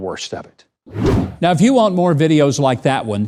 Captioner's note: air whooshing